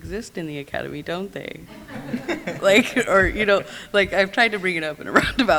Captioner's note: laughs